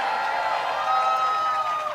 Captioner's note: cheering